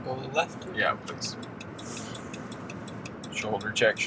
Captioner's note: turn signal blinking